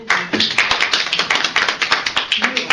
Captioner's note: applause